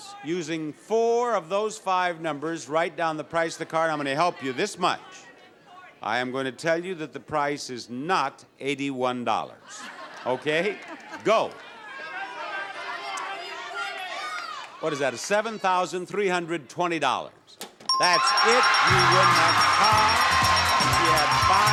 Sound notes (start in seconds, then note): 9.6 audience laughs; 12.3 audience members shout prices; 17.9 bell dings repeatedly; 18.5 lively horn music